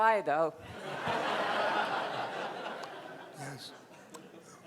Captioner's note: crowd laughing